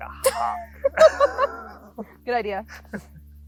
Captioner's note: both laughing